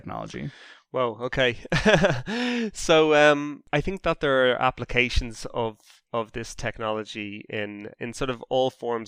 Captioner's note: chuckle